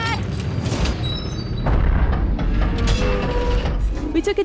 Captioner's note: mechanical screeching